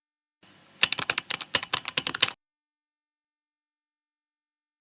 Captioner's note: typing